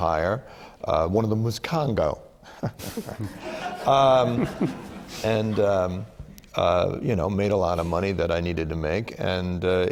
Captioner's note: laughter